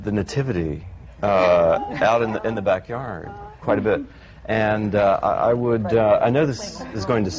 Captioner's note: laughter